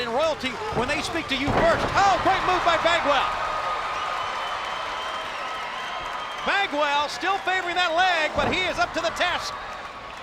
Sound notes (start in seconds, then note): 3.6 spectators cheering and applauding; 9.9 spectators cheering